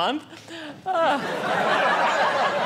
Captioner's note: audience laughing